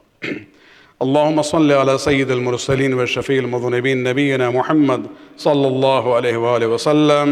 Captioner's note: arabic